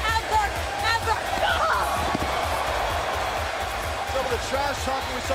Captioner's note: crowd cheering